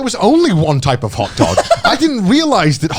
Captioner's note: chuckling